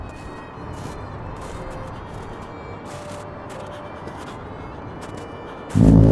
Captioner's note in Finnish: hytinää, lumi narskuu; sumutorven jylinää